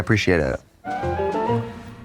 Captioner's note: bright chime